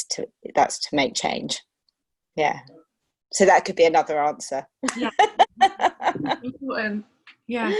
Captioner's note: laughter